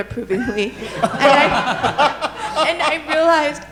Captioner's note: all laughing